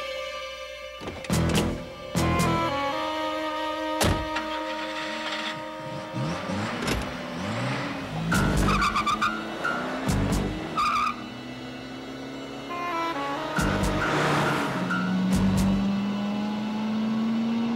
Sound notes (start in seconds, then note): 6.6 engine revs; 6.6 tires squeal